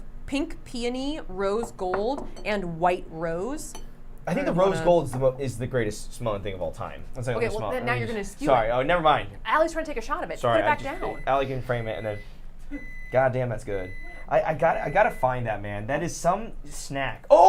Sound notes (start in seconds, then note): 10.6 microwave beeping